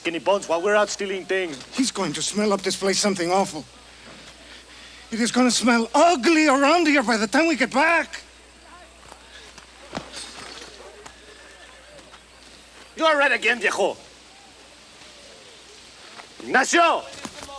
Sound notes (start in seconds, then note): 13.6 speaks Spanish